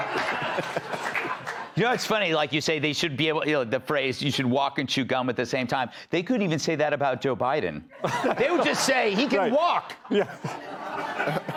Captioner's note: laughter